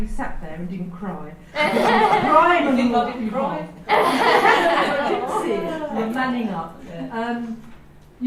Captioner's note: audience laughs